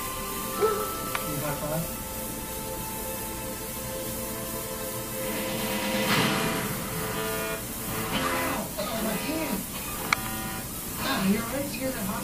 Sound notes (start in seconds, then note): 0.5 dragon chatters